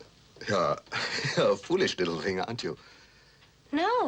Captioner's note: laughs